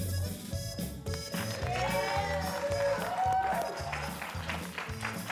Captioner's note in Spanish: aplausos